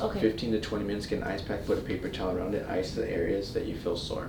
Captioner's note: none